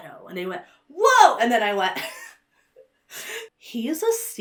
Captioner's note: laughs